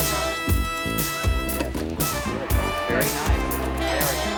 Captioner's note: indistinct chatter